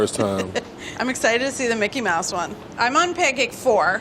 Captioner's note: laughs